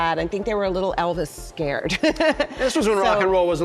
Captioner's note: laughs